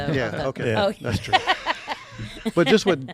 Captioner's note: laughing